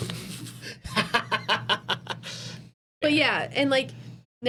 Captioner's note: laughing